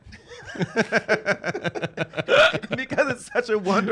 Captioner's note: laughs